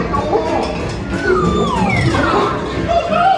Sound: slide whistle droops

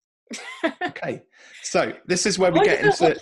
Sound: laughing

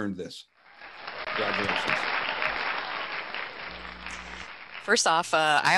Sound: crowd cheering

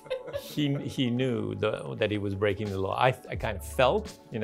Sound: all laughing; laughs

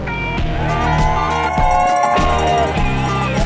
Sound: crowd cheers; upbeat music

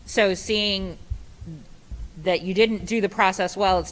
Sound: none

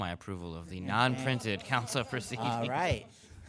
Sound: laughs; council members laugh

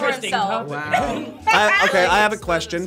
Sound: group laughs

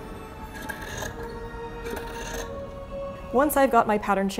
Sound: shears unsheathing; scissors snip

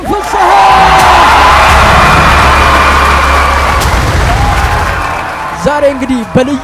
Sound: applause and scream

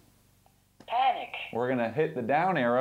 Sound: computer voice

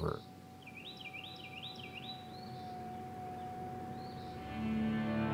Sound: birds trilling; gentle music

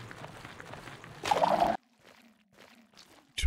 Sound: skulk sensor emits sound

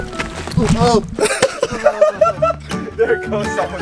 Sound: laughs

